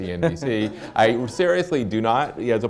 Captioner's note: laughter